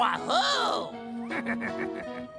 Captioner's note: shouts; snickering